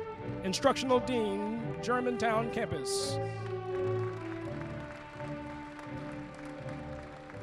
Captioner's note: applause